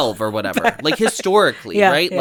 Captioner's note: laughs